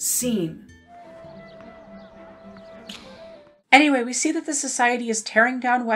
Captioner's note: smooch sound